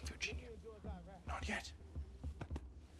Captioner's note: whispering